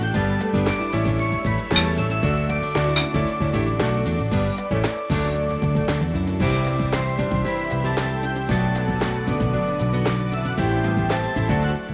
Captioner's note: chimed